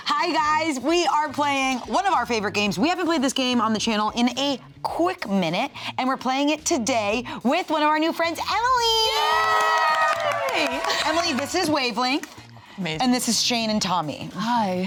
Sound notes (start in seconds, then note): 9.0 all cheering